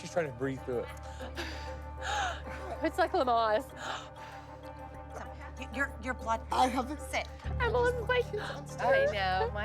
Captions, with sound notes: she's trying to breathe through it. [inhaling and exhaling deeply] It's like Lamaze. Your blood-- Sit. -I'm like... -I know.